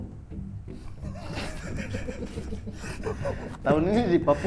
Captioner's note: giggling